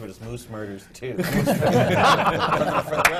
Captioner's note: laughter